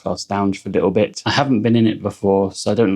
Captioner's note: none